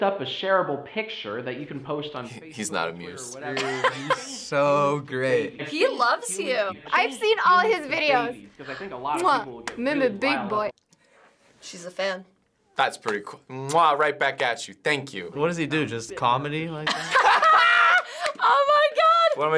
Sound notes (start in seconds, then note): 3.5 laughs; 8.7 gasps; 16.8 both laugh